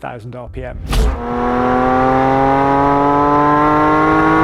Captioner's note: exhaust roaring